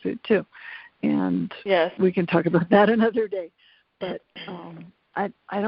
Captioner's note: laughs